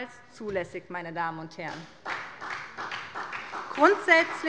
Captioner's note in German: Beifall bei der SPD